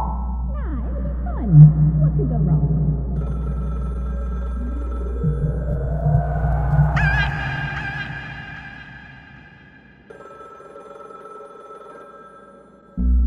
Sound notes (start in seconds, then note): 6.7 Tina yelps; 10.0 phone ringing; 13.0 theme music